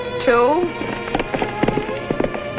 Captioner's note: hooves fading